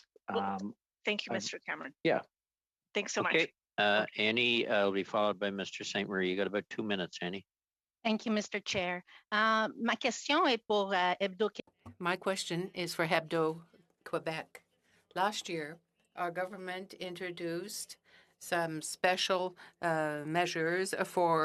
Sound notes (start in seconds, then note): 14.9 speaking French